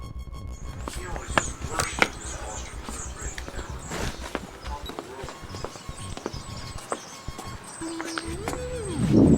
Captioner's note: bird chirping